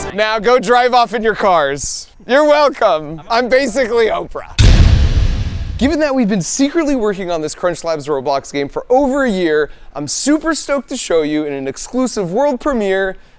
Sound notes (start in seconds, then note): 4.8 door thudding